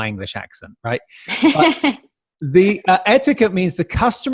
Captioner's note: laughs